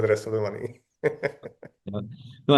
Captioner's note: laughs